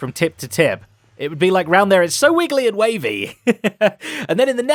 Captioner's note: laughs